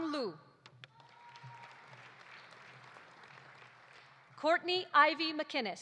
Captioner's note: audience applauding